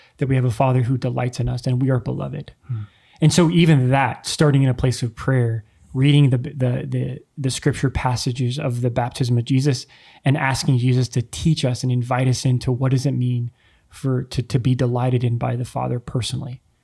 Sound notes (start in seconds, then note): none